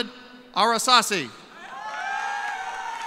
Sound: cheers and applause

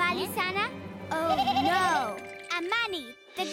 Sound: bleating in terror

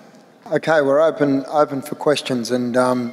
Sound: voiceover

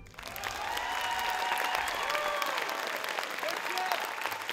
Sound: audience applauding

